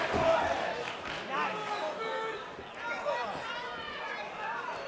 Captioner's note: crowd clamors